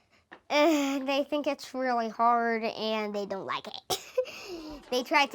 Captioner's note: classroom chatter